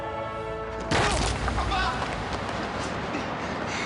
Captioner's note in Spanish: Ruido al caer